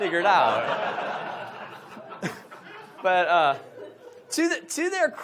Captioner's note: audience laughs